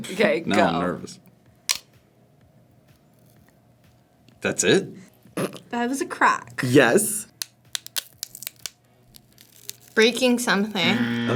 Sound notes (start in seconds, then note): 1.7 celery snaps; 7.3 celery snaps; 10.8 buzzer